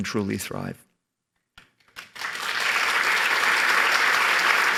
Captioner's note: applause